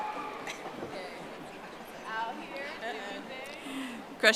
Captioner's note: audience applauding